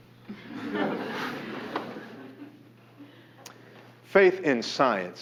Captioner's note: class snickering